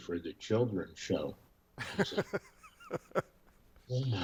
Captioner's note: chuckles